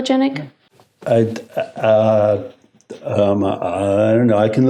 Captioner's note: stammers